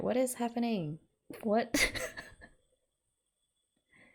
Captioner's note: laughs